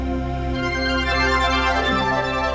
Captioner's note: chimes